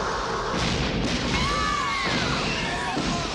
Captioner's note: explosion; screaming